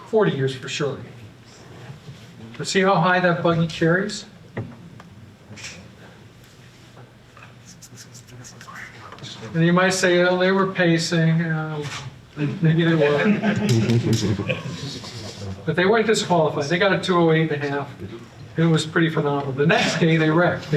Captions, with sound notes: 40 years for sure. But see how high that buggy carries. And you might say, "Oh, they were pacing." Um, maybe it was (Laughter), but they weren't disqualified. They got a 2:08 and a half. It was pretty phenomenal. The next day, they wrecked.